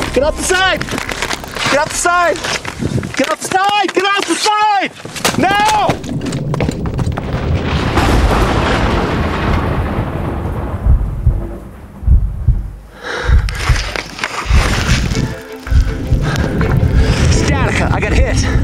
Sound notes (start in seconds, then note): 8.0 thunder and lightning; 13.1 panting